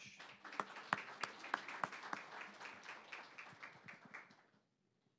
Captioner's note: applause